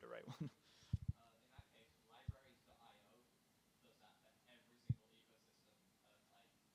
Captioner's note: audience member murmuring